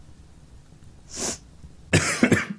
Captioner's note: crying sniffle; coughs